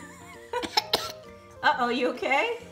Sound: cough

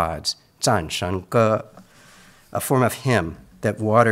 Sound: speaks in Mandarin

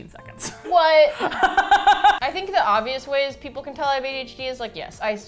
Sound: laughs

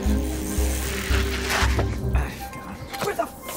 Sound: bike wheels scraping

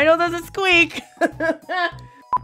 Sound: laughs

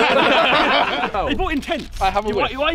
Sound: laughing

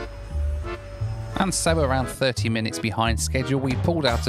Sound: voiceover

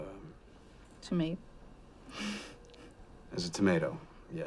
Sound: giggles

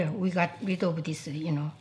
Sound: none

